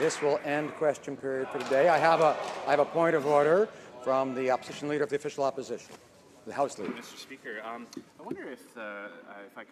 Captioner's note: some Applause